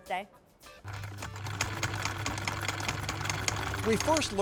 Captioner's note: sewing machine hums